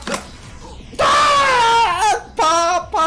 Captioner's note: T8 Law screams